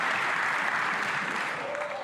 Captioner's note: some Applause